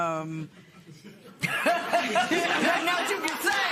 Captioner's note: laughter